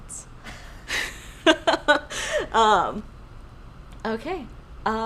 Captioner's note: laughing